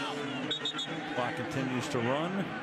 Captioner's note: onfield chatter; whistle